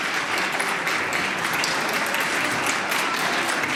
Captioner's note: applause